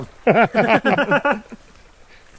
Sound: laughter

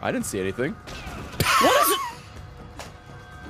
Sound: laughs

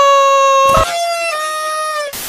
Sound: party horn noises

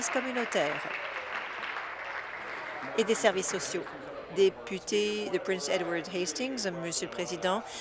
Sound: applause

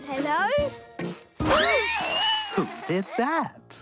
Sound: whirling noises

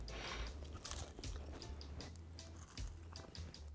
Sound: crunching

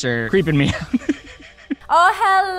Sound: laughing

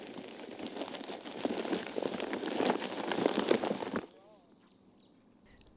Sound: plastic rolling

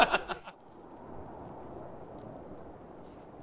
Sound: wind howling

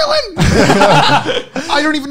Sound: men laughing

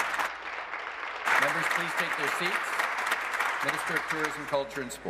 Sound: applause

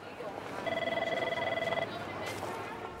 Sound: phone ringing

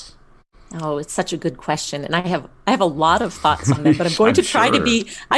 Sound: laugh

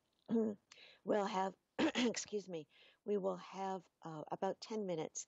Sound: coughs

